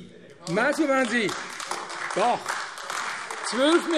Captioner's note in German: Beifall AfD